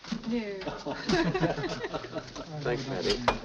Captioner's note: people laughing